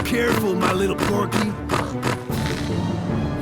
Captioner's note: Descartes oinks